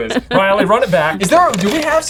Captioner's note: tape clicks